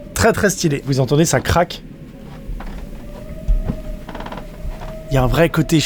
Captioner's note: cracks sound